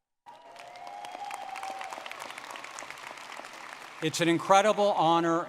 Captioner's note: audience clapping and cheering